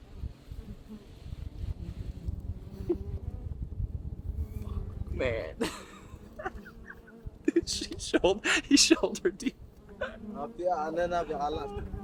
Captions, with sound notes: Man. (laughs) He's shoulder deep.